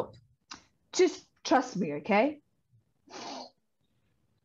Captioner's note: they breathe